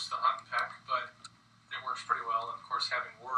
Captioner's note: computer typing noise